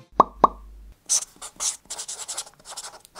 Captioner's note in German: Kratzender Stift